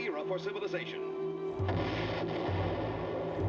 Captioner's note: explosion